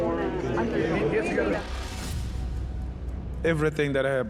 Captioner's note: crowd chattering